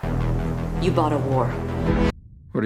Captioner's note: woman’s voice